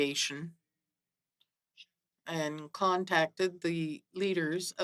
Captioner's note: speaking French